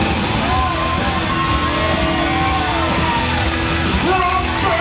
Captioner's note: audience cheering